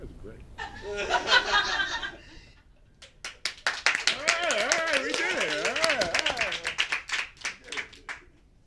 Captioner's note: background laughter and clapping